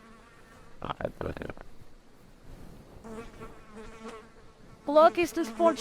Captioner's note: buzzing of flies and electronic interference